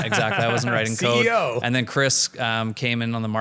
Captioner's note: laughing